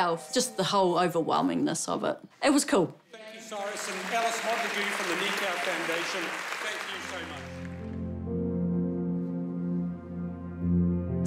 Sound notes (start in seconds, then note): 9.1 applause; 9.6 gentle music